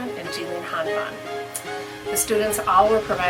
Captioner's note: speaks softly